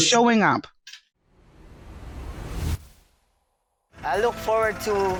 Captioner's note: air whooshing